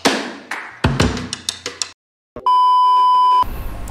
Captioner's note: clap